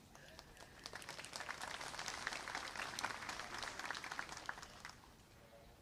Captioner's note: applause